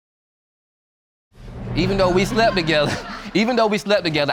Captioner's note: chuckles